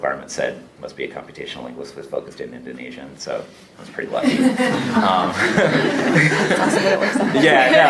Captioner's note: laughter